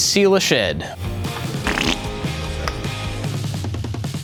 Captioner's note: farting